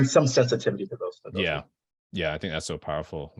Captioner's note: audio distortion